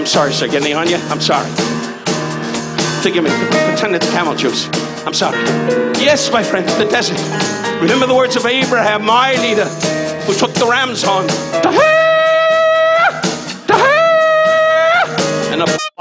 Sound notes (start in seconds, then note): 12.0 Don yelling